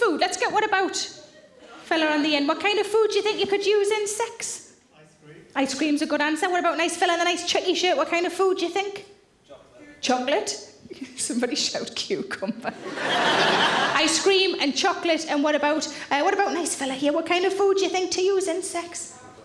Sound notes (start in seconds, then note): 12.7 audience laughing